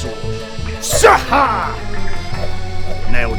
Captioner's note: zzaarrhahrhgh!